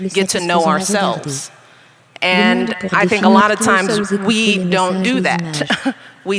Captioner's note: chuckles